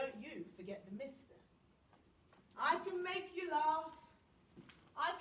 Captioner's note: none